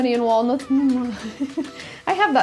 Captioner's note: laughs